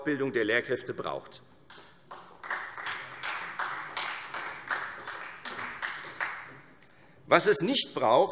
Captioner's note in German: Beifall Freie Demokraten